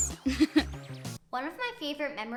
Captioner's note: laughs